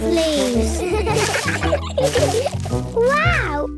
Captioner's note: laughter